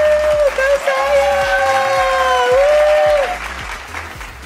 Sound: applause

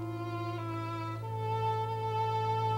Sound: none

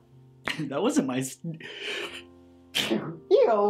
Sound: sneezes

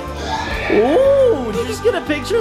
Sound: horse in background neighs

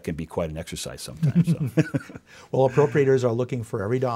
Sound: both laugh

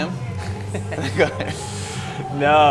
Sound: both laugh

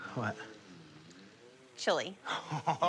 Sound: laughs

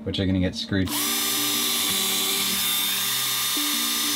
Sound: drill buzzing

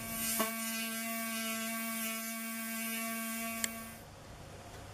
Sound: buzzing noise from the pneumatic tool

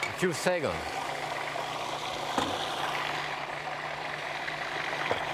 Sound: food processor whirring

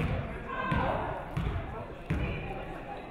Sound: none

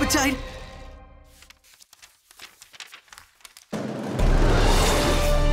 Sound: pages flipping

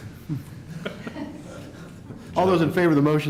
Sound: laughter

